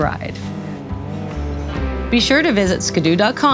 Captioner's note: vehicle rumbling